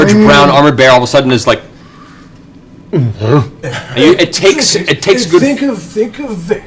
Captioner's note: confused bear noise